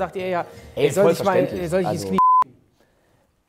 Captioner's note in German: Piep